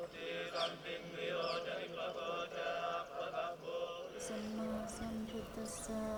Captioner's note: all chanting